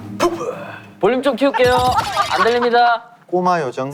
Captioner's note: laughing out loud